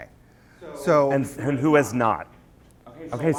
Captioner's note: voiceover